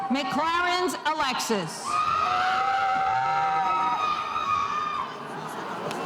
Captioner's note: spectators cheering